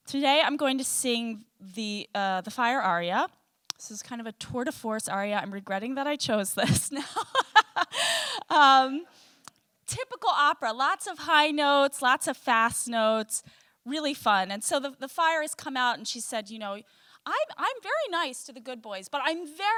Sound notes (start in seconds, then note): 7.0 laughing